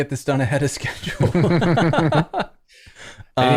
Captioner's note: laughter